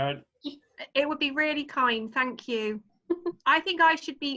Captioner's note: laughter